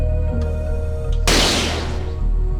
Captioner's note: gunshot